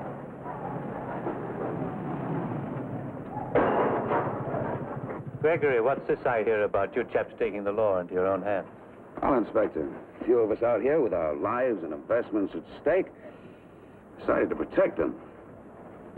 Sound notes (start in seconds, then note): 0.1 car rumbles; 3.5 banging sound